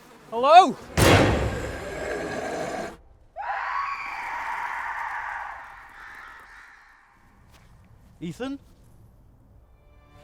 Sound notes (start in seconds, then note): 1.0 deep growling; 3.3 distant scream